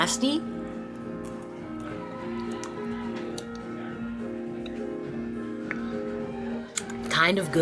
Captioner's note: jaunty piano music; crowd chattering